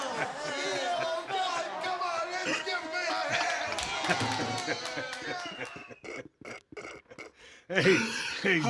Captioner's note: laugh